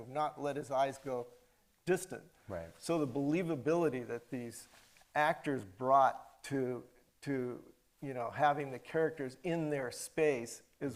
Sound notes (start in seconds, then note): none